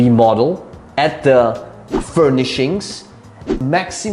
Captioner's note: air whooshing